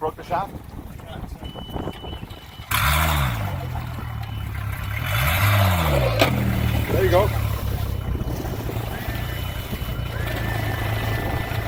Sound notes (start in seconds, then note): 2.5 motor roars